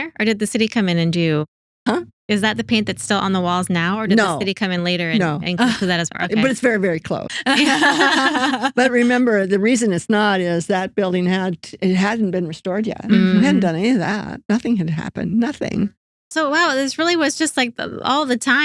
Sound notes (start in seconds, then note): 7.4 laughing